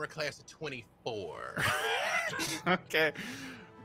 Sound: laughs

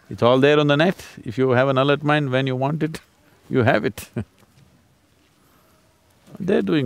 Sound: laughs

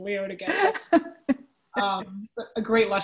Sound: laughs

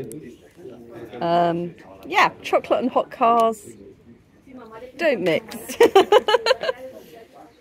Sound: laughing

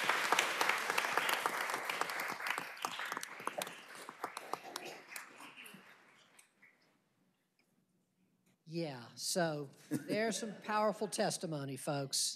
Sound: applause

